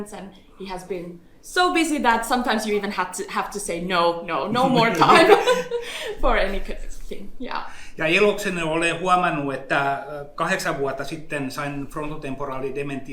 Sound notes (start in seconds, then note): 8.1 speaks in Finnish language